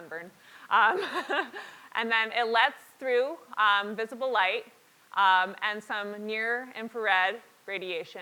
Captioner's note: laugh